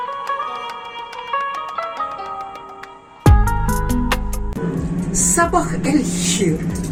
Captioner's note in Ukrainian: оплески